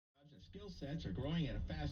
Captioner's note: radio